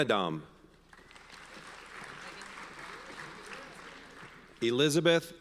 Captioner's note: audience applauds